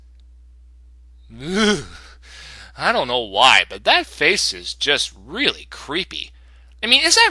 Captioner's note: shudder